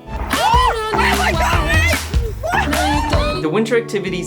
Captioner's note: screaming